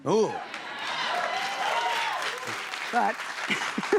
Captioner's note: cheers and applause